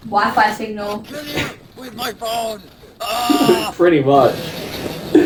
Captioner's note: laughs